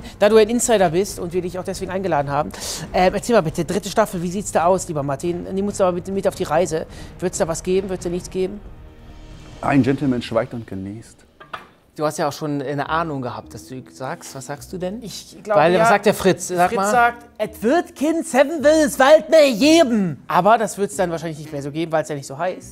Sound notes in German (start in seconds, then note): 10.8 Spannungsvolle Klänge; 17.3 verstellt